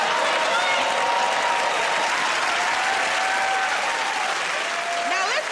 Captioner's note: cheering and applause